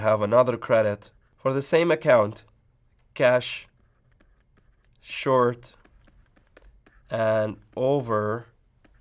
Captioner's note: writing sounds